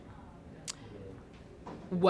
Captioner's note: clicks tongue